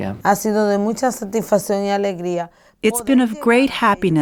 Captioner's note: speaking foreign language